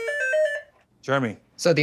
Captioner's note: beeping